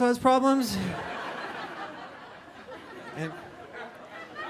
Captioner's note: audience laughing